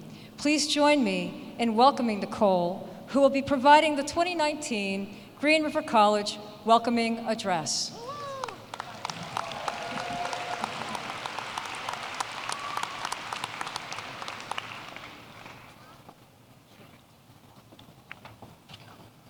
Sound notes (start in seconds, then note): 8.4 applause